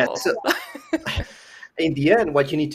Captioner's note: laughter